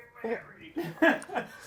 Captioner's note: laughter